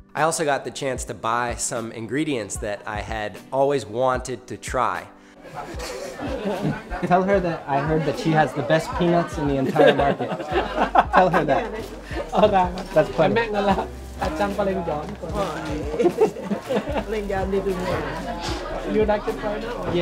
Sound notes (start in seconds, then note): 10.5 laughs; 12.5 foreign speaking